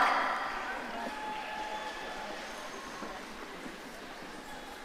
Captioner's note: audience cheering